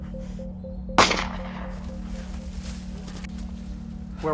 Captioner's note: pistol fires